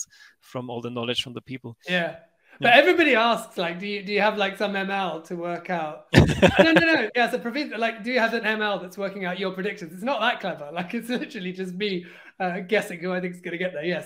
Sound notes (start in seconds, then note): 6.1 laughs